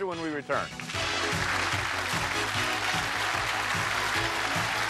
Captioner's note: applause; upbeat music